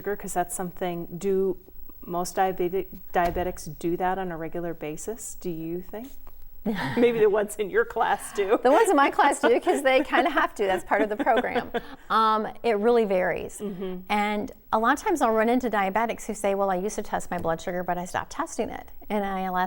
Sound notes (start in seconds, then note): 8.1 laughing